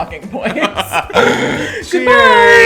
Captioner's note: both laugh